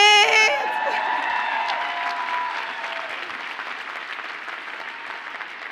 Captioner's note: audience cheers and applauds